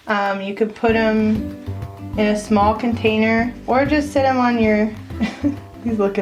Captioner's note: laughs